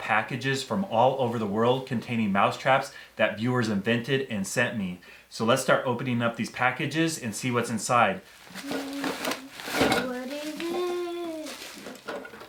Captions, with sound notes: SUBS from all over the world containing mouse traps that viewers invented and sent me So let's start opening up these packages and see what's inside *Boxes ripping/opening* sub to EXCARTERNOAH1 plz u9ipojlk sdfgwesdgferrrrrr